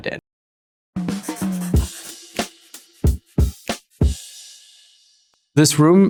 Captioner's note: jazz music; pencil scribbling